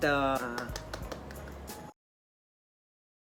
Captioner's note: clapping